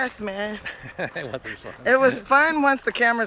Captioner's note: laughter